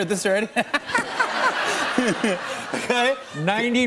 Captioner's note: laughter